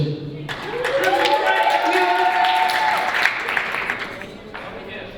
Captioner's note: audience cheering